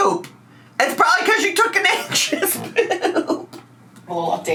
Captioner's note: laughs